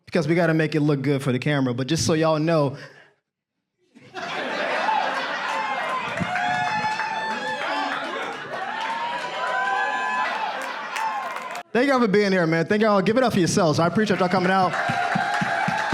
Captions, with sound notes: Because we gotta make it look good for the camera. But just so you all know... (audience cheers and claps) Thank you all for being here, man. Thank you all. Give it up for yourselves. I appreciate you all coming out.